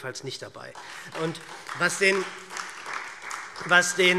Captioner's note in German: Beifall SPD